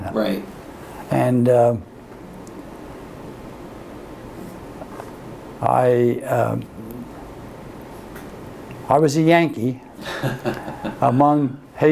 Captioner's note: laughter